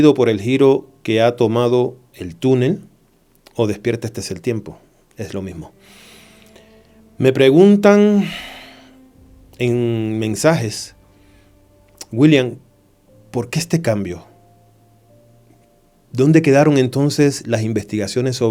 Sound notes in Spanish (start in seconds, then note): 8.2 suspiro